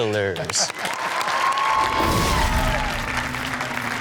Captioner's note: audience cheers